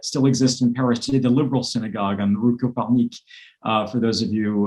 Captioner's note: speaks foreign language